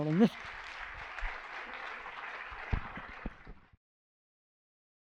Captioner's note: applause